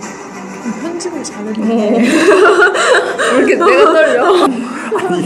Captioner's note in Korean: 웃음